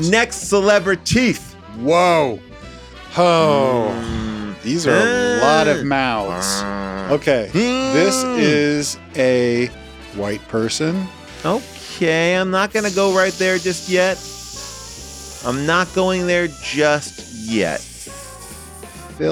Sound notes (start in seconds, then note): 6.0 growls; 14.3 hisses; 14.3 lively music; 17.9 hisses; 17.9 lively music